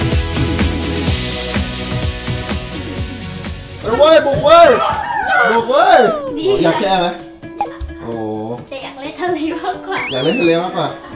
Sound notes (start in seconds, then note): 0.0 uplifting music continues; 6.4 chuckles